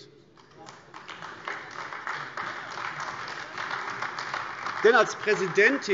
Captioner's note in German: Beifall AfD